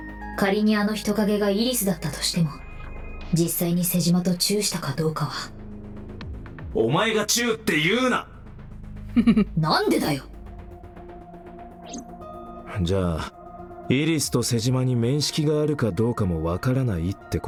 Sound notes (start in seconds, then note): 9.1 chuckles